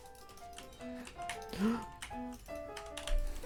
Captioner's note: gasp